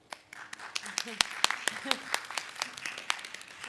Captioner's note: audience claps